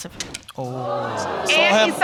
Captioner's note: audience exclaiming